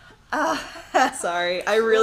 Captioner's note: laughs